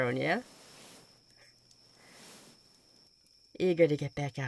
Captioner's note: rustling